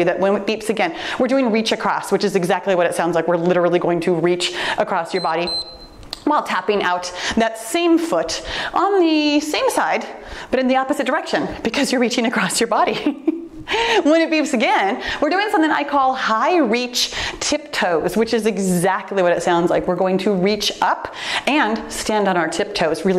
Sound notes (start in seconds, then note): 5.0 timer beeps; 12.9 giggles